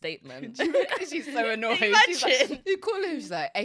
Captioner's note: both laughing